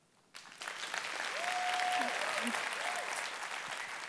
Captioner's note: cheering and applause